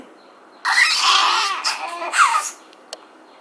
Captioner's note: smooches roughly